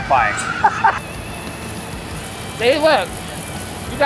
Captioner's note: laughs